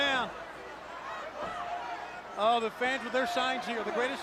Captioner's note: crowd chatter